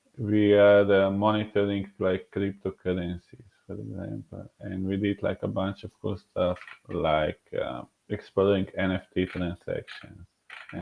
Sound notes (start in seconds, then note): none